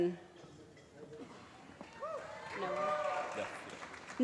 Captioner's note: applause